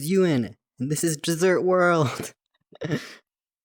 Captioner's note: laughs